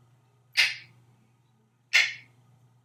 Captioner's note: finger snapping sound